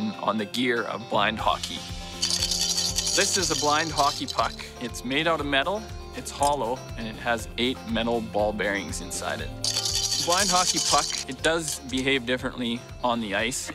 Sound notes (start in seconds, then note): 1.6 rattle; 9.6 rattling